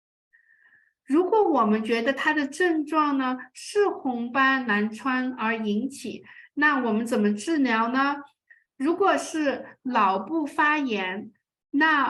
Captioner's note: speaking chinese